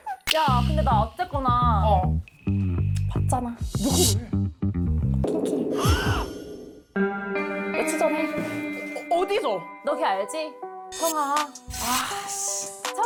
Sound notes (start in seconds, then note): 5.2 jaw-dropping sound effect